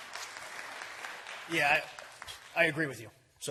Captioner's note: applause